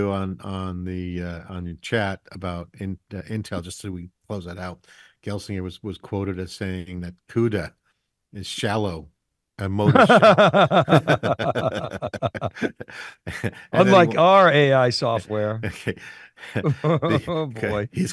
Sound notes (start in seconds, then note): 9.8 laughing; 16.2 laughs